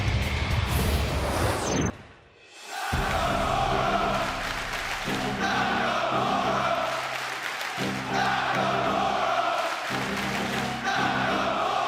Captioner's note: crowd cheering